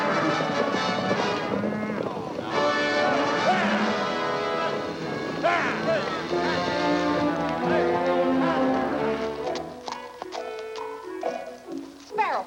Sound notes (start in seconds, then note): 1.9 cowboys shouting; 10.0 gentle music